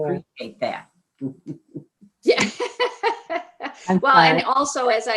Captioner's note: laughs